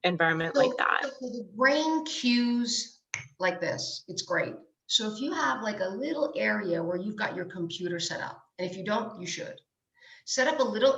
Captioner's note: snaps fingers